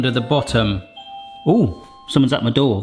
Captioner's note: doorbell rings